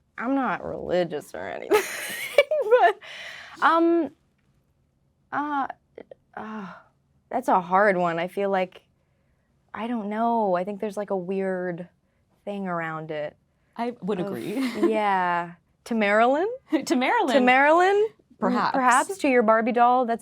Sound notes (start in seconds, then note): 2.9 laughing; 14.3 laughing